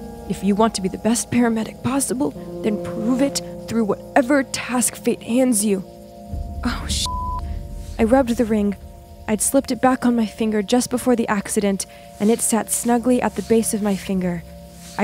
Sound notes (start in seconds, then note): 7.0 beep